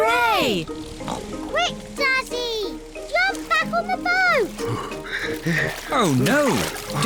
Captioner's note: panting